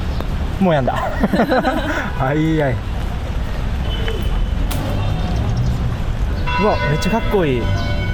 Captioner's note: laughs